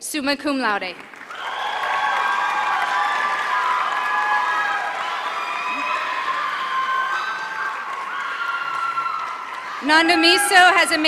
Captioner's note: applause